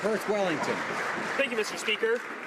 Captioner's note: some Applause